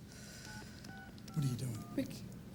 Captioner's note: phone keys beeping